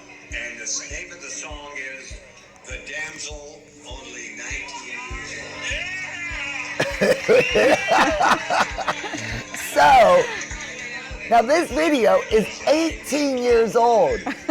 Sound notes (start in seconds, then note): 6.7 laughing; 6.8 crowd cheering